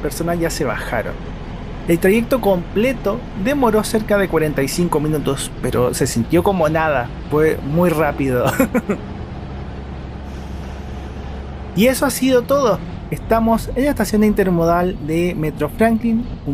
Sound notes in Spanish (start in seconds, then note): 8.4 risas